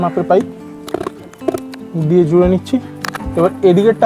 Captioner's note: sound of pipes being fitted